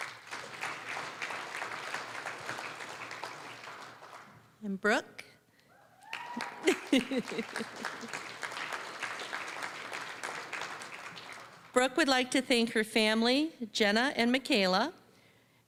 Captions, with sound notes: (applause) Brooke. (applause, cheering) (applause) Brooke would like to thank her family, Jenna and Michaela.